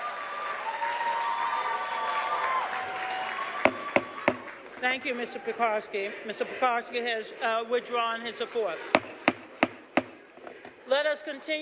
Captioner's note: cheers and applause